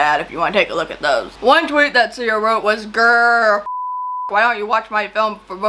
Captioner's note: beep